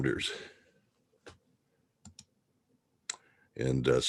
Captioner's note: mouse clicking